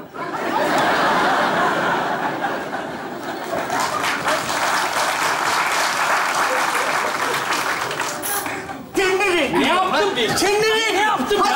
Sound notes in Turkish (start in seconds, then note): 0.1 Kahkaha sesleri; 3.4 Alkış sesleri